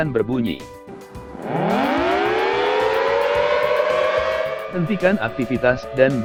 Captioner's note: loud thunderbolt sirene